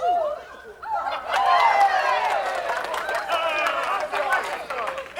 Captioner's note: all cheering